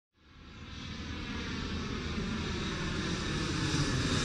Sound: plane engine roars

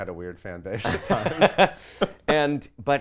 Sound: laughs

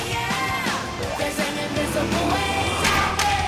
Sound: sound waves

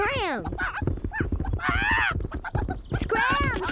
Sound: squawking

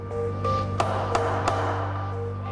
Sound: gavel strikes three times

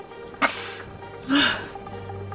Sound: coughs

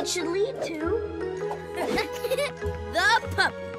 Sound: laughing

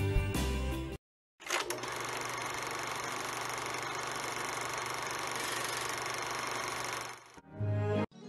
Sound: soul music playing; film projector rolls

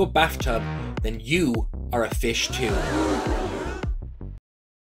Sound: crowd gasping sound effect

